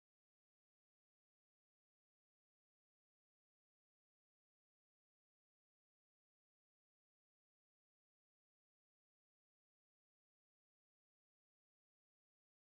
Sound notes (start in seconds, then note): none